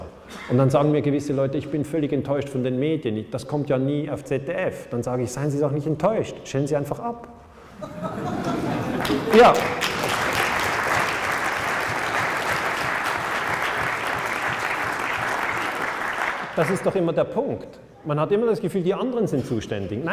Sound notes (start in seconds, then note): 7.7 laughter; 9.5 claps